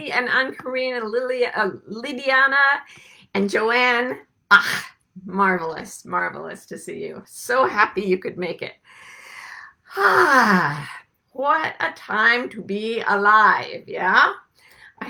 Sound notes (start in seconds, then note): 9.9 sighs